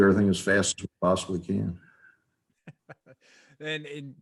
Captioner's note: chuckles